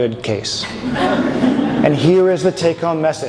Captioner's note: audience chuckles